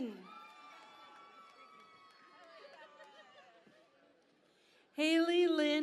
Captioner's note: cheering and Applause